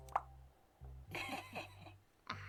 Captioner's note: laughs